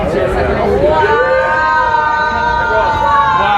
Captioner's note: all exclaiming